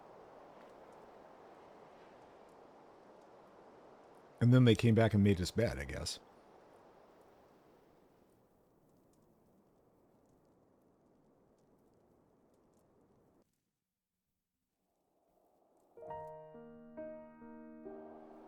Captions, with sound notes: And then they came back and made his bed, I guess. [silence] [piano music]